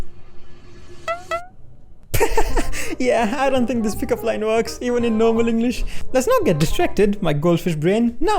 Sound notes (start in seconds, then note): 2.1 hahahaha